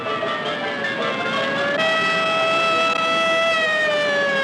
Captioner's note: siren wailing